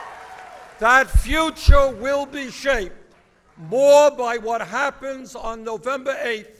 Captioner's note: applause